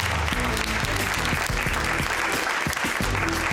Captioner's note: audience applauding